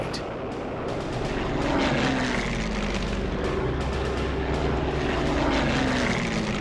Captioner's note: plane engines roaring; dramatic music